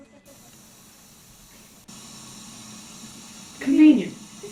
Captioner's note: static from cctv feed